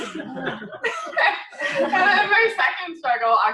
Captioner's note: laughter